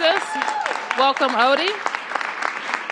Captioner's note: applause